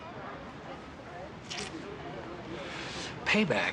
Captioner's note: none